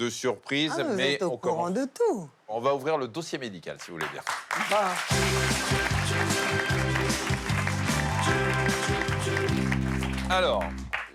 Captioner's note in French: applaudissements